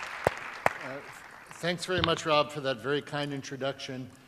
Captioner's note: applause